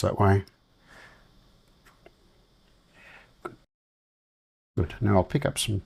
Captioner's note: silence